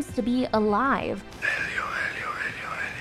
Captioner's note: whispering